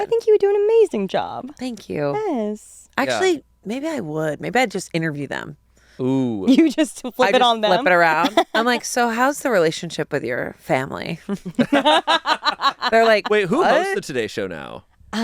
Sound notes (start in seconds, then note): 11.4 all laugh